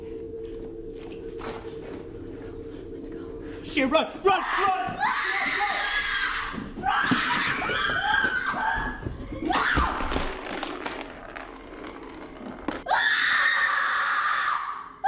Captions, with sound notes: Let's go. Let's go. - Oh shit, run! Run, run. (screaming)